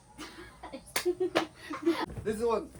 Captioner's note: laughing